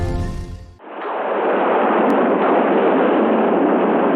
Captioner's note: thunder crashing